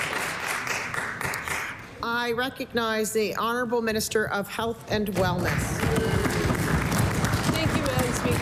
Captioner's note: applause